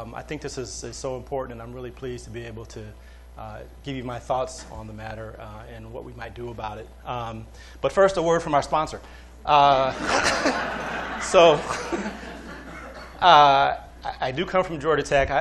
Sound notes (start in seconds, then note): 9.9 laughter